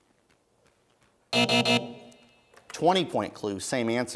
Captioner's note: buzzing